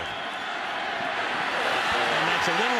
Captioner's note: cheers